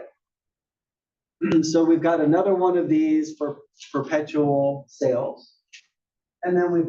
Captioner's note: cough